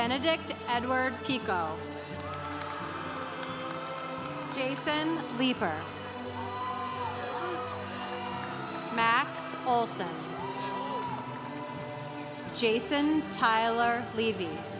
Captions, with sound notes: Benedict Edward Picot. (congregation cheering) Jason Liepper. (congregation cheering) Max Olson. (congregation cheering) Jason Tyler Levy.